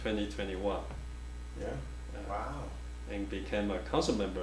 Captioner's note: offscreen Voice